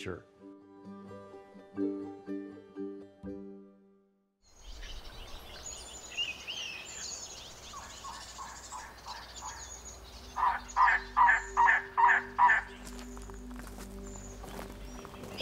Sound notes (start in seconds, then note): 4.7 birds chirping; 7.6 bird cawing